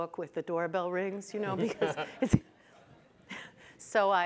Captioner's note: audience chuckles